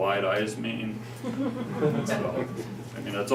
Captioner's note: laughter